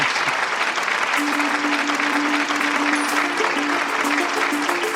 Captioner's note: applause